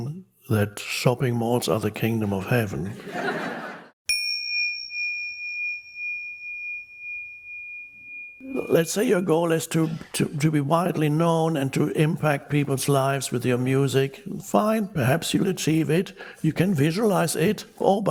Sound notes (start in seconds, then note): 2.9 people laughing; 4.0 dinging